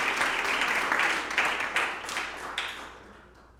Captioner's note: applause